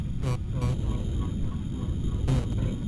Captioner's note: buzzing